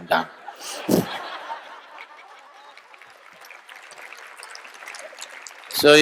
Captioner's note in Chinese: 眾笑／掌聲